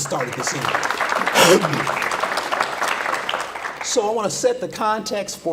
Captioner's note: audience applause